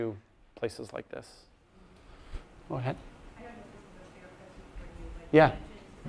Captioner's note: voiceover